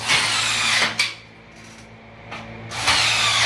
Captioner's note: drill whirs